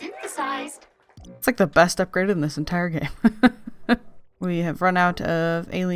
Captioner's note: laughs